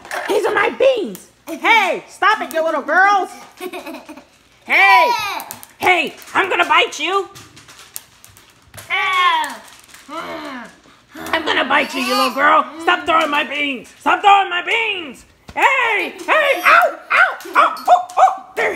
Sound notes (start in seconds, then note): 3.6 laughs; 6.1 voiceover; 10.2 growls